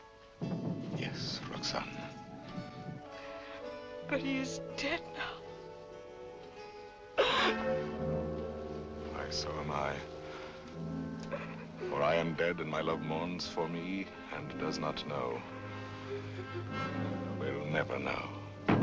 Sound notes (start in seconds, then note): 0.0 drums; 7.0 weeps